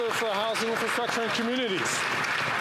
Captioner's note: some Applause